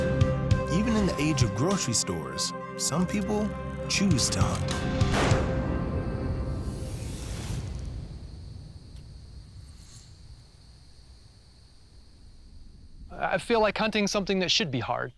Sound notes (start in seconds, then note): 5.0 gunshot; 6.5 insects chirping